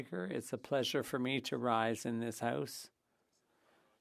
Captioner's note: speaking French